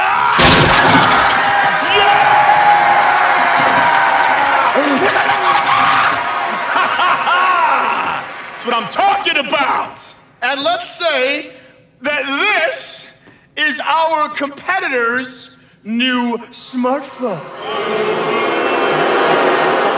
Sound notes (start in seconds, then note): 0.0 shouts; 0.2 audience cheers; 4.0 yelping; 6.1 laughs; 17.4 audience boos